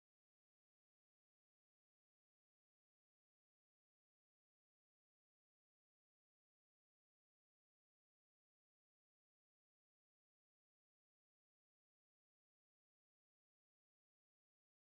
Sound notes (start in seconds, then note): none